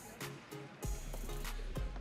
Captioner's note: audience cheering